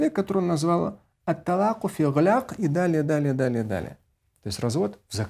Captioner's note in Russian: говорит на арабском